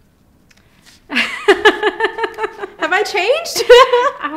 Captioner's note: laughing